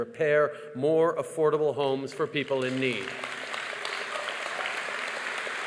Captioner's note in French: Applaudissements